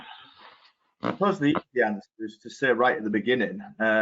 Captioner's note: audio distorts 01.01